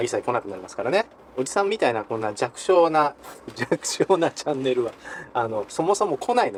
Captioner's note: laugh